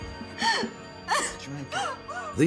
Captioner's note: gasping and crying